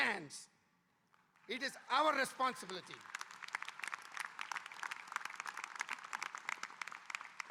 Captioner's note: audience applauding